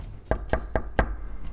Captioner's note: knock